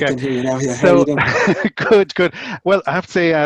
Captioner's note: laughs